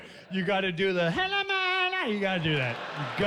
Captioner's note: chanting in gibberish